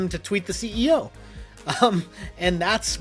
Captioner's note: chuckles